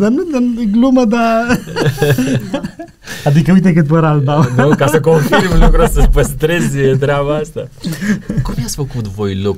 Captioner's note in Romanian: Râsete